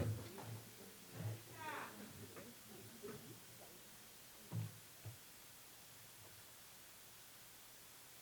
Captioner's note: away from Microphone